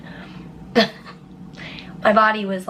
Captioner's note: chuckling